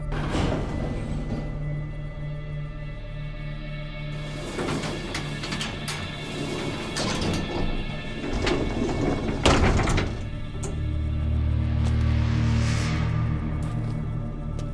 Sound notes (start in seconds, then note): 0.0 elevator creaks; 4.1 gate rattles; 10.3 slow music continues